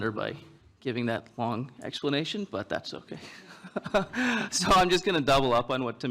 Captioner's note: laughs